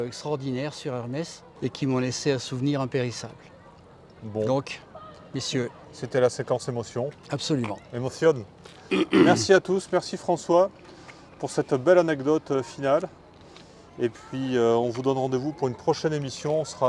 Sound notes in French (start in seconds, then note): 8.9 raclement de gorge; 8.9 toux